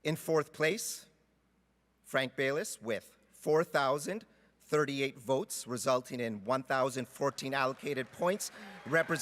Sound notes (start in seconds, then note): 1.1 cheering and Applause